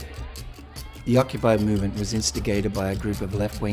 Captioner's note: voiceover